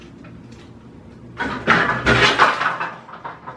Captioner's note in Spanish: ruido de que ha tirado algo sin querer